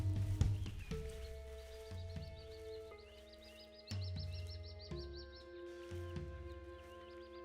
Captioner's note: brooding percussive music; birds tweet